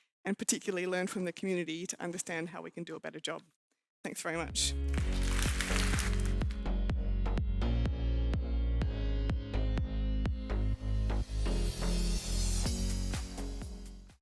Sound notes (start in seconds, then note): 4.9 audience clapping; 6.3 upbeat music